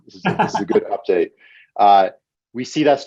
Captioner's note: laughs